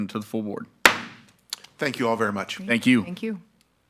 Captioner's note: gavel clacks